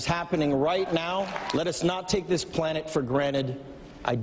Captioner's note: cheers and Applause